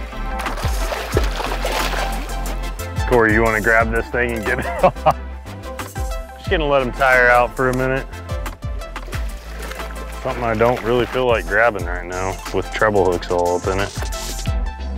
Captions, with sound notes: (water splashing) Corey, you want to grab this thing (laughing) and get it off? Just gonna let 'em tire out for a minute. Something I don't really feel like grabbing right now with treble hooks all up in it.